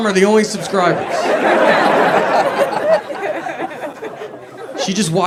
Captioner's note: audience laughs